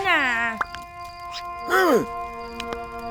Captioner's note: speaks in gibberish